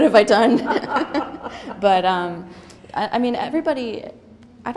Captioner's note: laughter